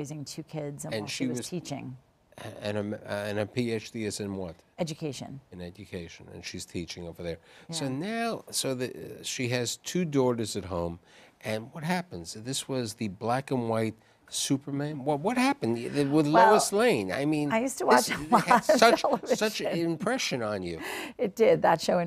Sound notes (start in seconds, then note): 18.0 laughs